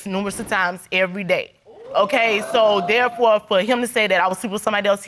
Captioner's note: audience exclaiming